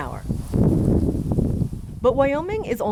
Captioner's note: wind blows